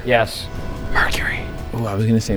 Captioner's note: whispers